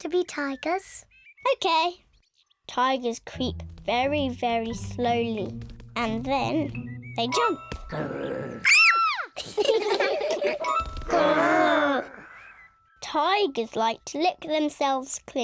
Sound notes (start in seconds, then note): 7.9 growls; 8.7 kids shout; 9.4 all laughing; 10.5 all growling